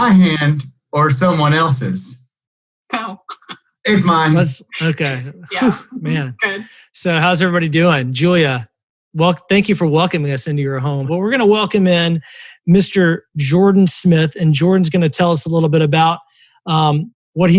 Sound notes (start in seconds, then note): 3.8 laughs